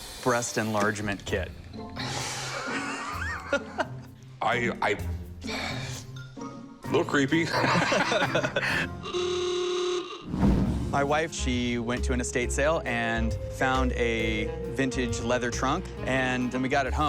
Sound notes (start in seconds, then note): 2.5 laughter; 7.4 laughter; 9.0 car horn